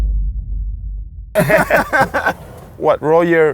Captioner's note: laughs